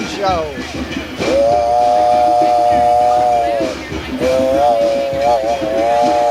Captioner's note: makes train engine sound